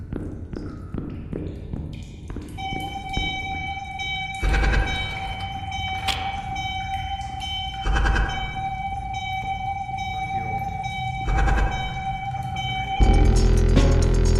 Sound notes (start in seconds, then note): 2.6 warning sound